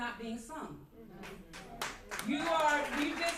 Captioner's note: applause